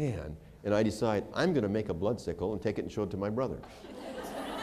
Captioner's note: laughter